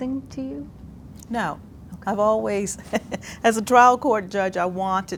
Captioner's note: laughs